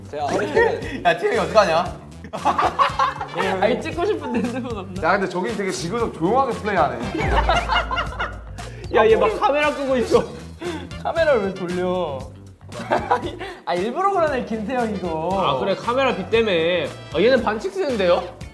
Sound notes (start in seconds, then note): 7.0 laughing out loud